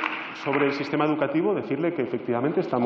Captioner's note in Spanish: Aplausos